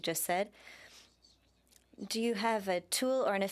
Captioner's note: speaking French